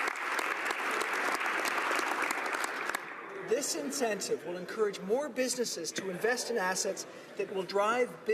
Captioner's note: applause